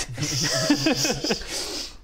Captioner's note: laughs in nerd